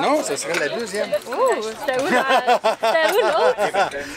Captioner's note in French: rire